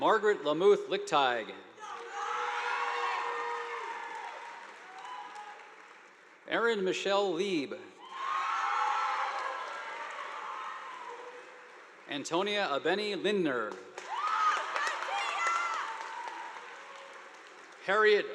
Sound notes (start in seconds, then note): 1.8 audience applauding; 8.0 students cheering; 8.1 audience applauding; 13.6 audience applauding; 14.0 students cheering